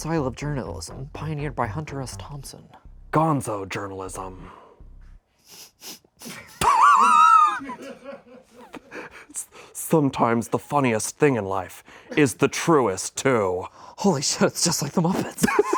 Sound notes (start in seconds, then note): 6.2 laughs